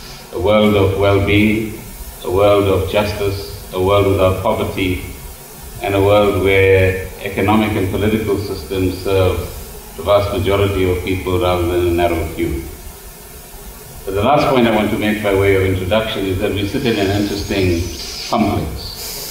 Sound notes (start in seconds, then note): none